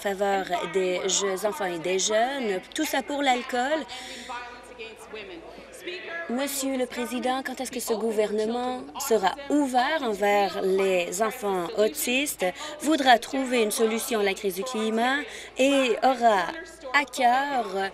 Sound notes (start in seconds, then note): none